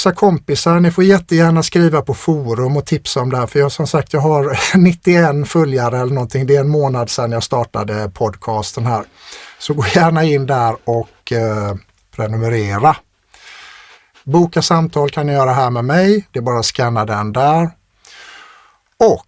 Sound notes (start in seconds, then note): 8.6 scoffs